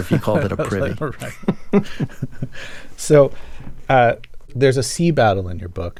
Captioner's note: laughter